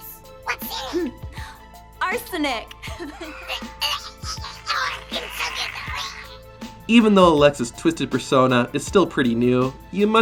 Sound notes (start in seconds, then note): 2.9 laughs; 4.8 choking